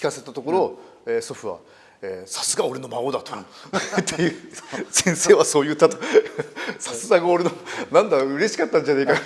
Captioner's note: laugh